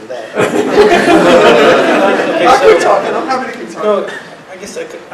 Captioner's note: laugh